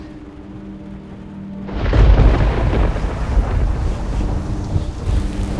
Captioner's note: thunderclap